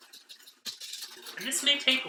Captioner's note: whisking